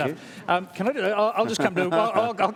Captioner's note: chuckles